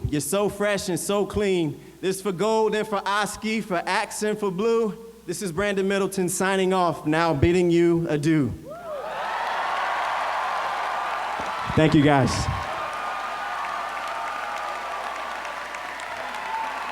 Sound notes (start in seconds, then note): 8.7 cheers; 12.7 applause